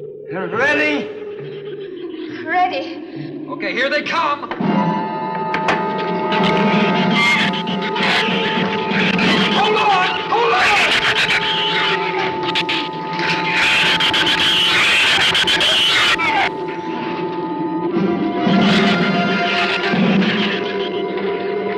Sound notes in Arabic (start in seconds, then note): 4.6 ثرثرة الزبابة; 4.6 موسيقى أوركسترالية متوترة; 10.6 صراخ الزبابة; 18.0 تستمر الموسيقى المتوترة